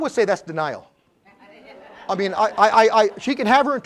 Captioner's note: laugh